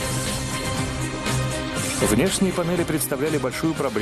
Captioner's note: voiceover